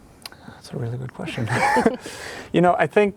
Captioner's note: laughs